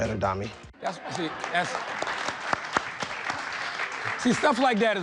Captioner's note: audience applauding